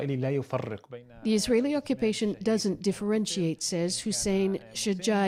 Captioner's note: speaking alternate language